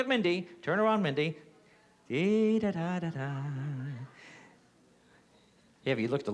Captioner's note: hums